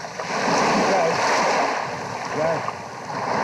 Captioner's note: water lapping